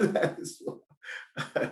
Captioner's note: laughing